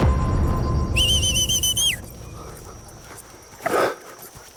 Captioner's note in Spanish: Chiflido